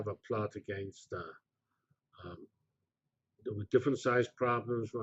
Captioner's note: pause